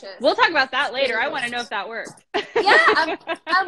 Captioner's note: laughs